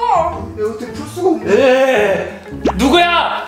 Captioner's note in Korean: 화난 탄성